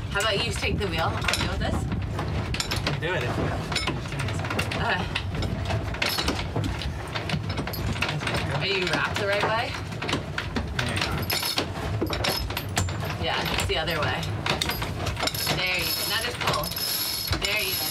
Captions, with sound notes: How about you just take the wheel, I'll deal with this. - I can do it if you would just give me a sec. - Okay. (pulley clattering) Are you wrapped the right way? - Maybe not. (pulley clinking) - Yeah, it's the other way. There you go, now just pull.